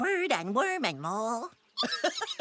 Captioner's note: giggling